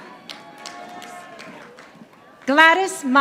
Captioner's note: audience applauding